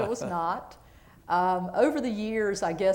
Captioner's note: laughter